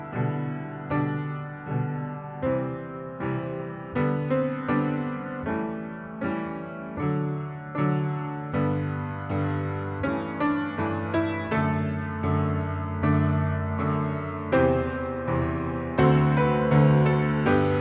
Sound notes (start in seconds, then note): none